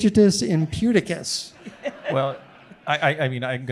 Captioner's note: audience laughing